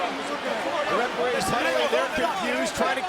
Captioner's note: crowd chattering